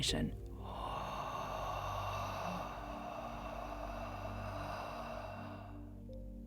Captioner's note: inhaling